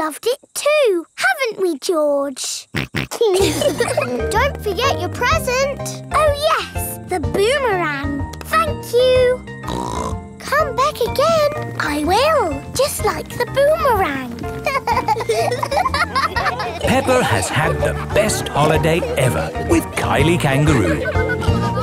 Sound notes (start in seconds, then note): 3.1 snorts; 3.2 laughs; 9.6 snorts; 14.6 laughing